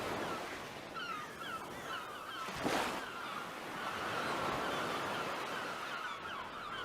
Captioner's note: seagulls calling, waves crashing